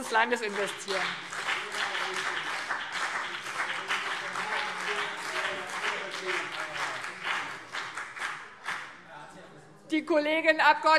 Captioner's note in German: Beifall BÜNDNIS 90/DIE GRÜNEN und CDU